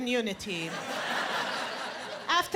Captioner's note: laughter